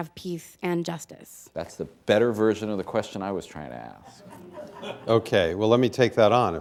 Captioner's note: laughter